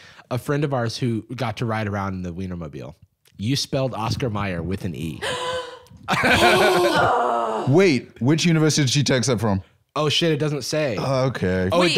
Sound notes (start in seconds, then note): 5.2 gasps; 5.2 groans; 6.0 laughs